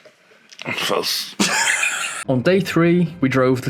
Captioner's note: laughs